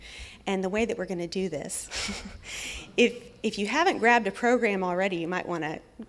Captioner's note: laughs